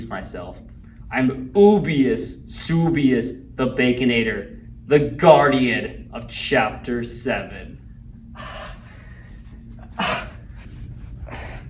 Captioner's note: labored Breathing